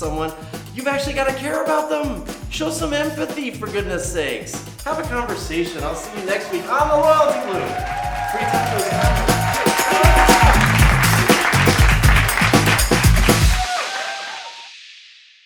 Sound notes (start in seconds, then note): 7.8 crowd cheering; 9.6 upbeat music